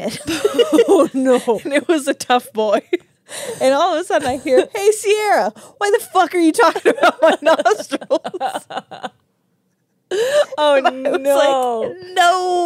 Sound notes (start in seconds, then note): 0.1 laugh; 8.4 laugh